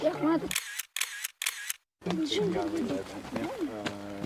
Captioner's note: camera clicking